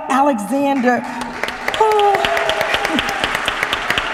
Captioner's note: applause